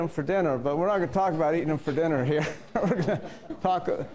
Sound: laugh

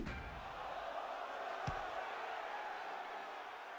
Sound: cheering

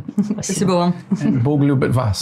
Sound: both chuckling; speaking in foreign language

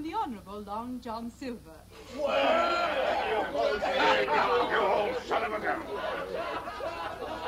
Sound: cheering

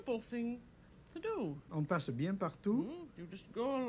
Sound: speaking French

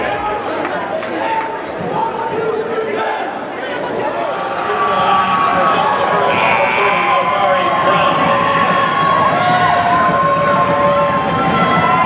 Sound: indistinct crowd noise

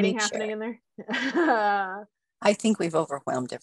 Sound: laughs

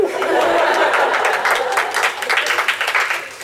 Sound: clapping

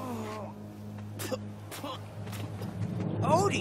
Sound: spitting

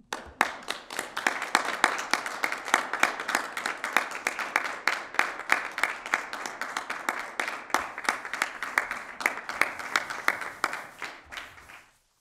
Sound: applause

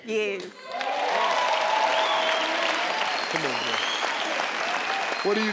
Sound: audience clapping

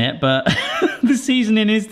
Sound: laughing

